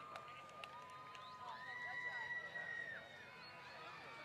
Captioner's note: applause